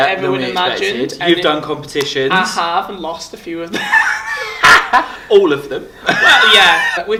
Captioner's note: laughs